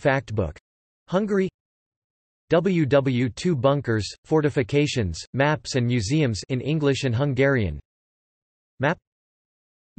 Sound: in English and Hungarian

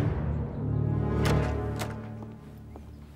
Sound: sound of door opening

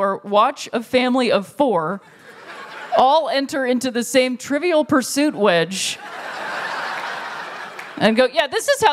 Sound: laughter

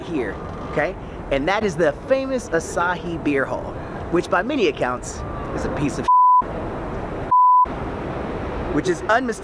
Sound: beep

